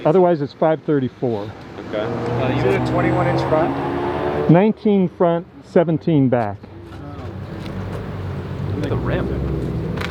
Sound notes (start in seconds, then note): 7.7 engine revving